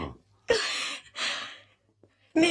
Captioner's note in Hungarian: örömittas sóhaj